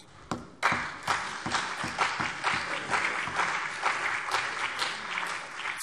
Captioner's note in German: Beifall CDU und BÜNDNIS 90/DIE GRÜNEN